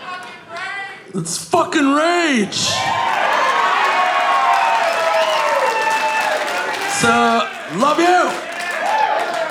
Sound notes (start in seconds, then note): 2.6 audience cheering; 3.0 audience applauding